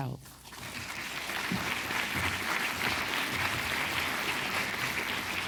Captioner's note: audience applause